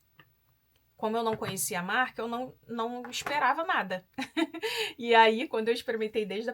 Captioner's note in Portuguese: risadas